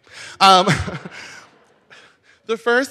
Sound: laughs

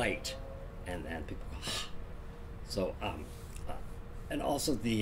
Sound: gasps

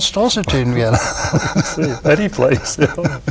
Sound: laughter

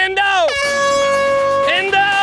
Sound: horn blaring

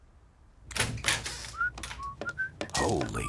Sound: whistling

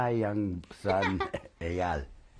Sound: laughs

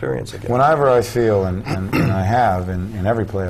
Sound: clears throat

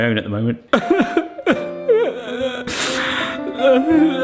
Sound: fake weeping

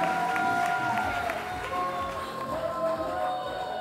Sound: audience cheer

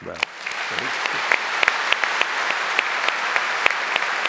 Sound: applause

